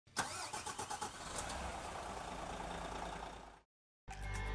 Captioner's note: car engine starting; upbeat music